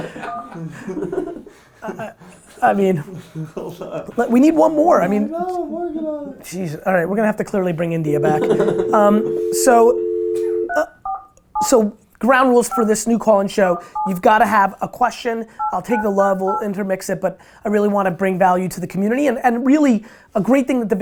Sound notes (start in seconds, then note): 0.0 group laughter; 0.0 laughs; 8.1 dial tone; 8.2 laughs